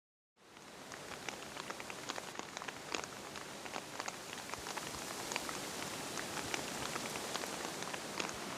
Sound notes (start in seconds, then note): 1.1 rain falling; 6.2 leaves rustling